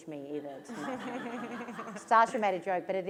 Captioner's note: laughter